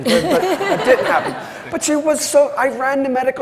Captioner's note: everyone laughs